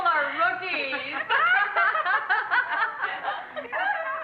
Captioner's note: laughing